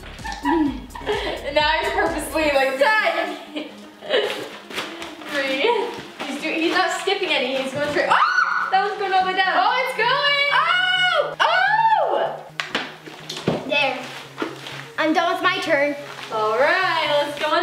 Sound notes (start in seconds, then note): 0.2 laughing; 8.3 shouting; 10.7 shouting